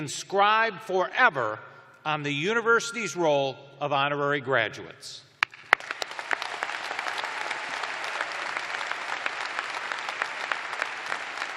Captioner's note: cheers and applause